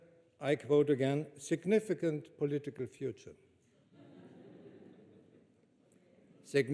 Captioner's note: laughter